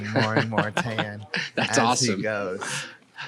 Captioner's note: laughing